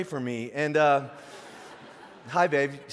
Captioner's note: audience laughing